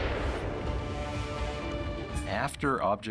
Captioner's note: explosions